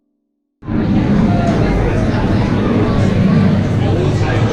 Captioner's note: chattering